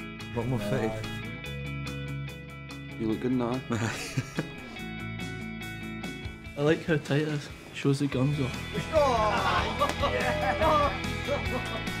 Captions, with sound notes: A lot more fitted. You'll look good in that eh? >>Aye! I like how tight it is, show's the guns off. (Loud laughter).